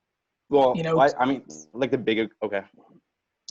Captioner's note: stuttering